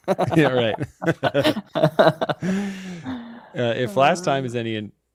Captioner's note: laughter